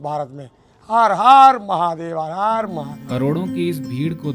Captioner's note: chanting